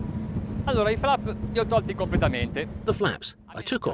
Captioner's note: speaking foreign language